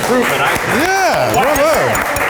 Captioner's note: applause